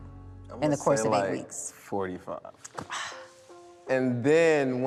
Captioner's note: scoffs